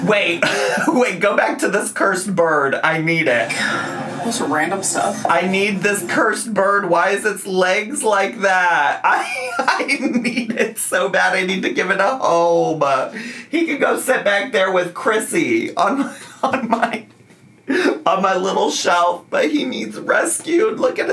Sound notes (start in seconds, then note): 15.8 laughs